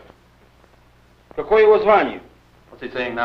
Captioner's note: foreign language